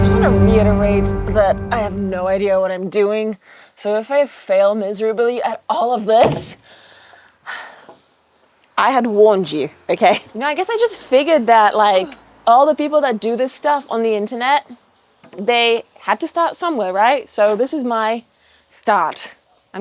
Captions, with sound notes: I just wanna reiterate that I have no idea what I'm doing. So if I fail miserably at all of this, (sighs) I had warned you, okay? You know, I guess I just figured that like all the people that do this stuff on the internet, they had to start somewhere, right? So this is my start.